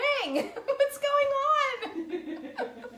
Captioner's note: laughing; laughs